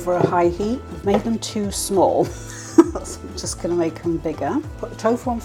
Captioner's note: laugh